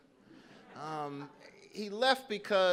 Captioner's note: audience laughing